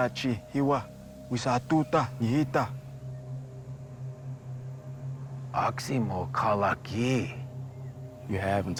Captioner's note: speaking in foreign language